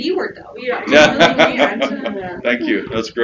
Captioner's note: audience laughs